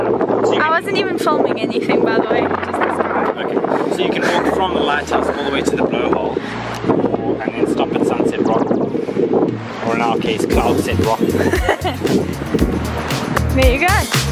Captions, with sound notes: - So you can-- - I wasn't even filming anything by the way just the (wind). - Okay, so you can walk from the lighthouse all the way to the blowhole and then stop at Sunset Rock. Or in our case Cloudset Rock. - There you go.